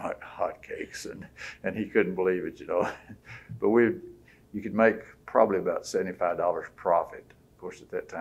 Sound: laughs

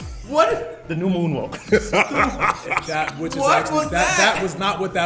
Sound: laugh

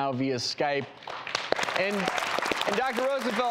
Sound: applauding

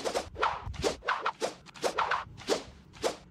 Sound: paintbrush whooshing continues

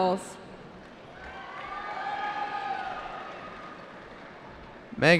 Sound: cheering

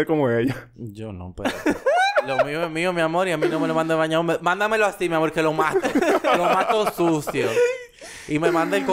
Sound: laughs

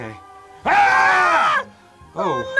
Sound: screams

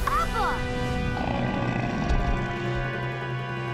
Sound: grunting

